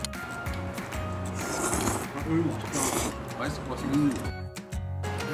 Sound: slurp

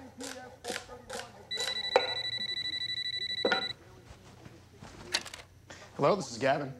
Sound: phone ringing

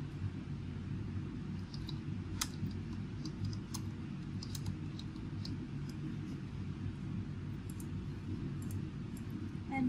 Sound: typing

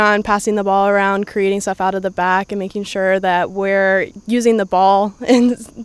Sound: laughs

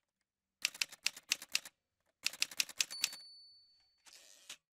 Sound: typewriter sounds

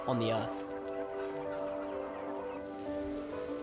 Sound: clucking

